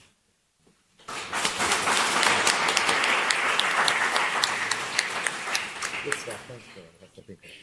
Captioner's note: applause